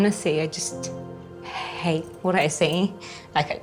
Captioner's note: tearfully